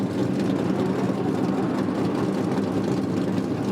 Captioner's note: engine idles